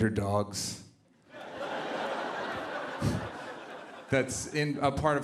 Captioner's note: laughter